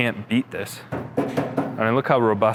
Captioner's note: steel thudding